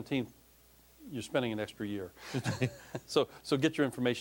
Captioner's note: both laughing